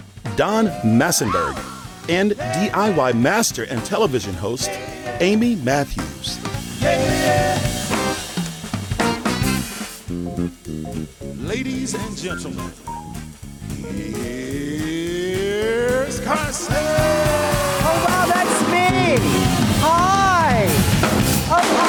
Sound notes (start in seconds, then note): 9.0 upbeat music; 17.4 audience cheering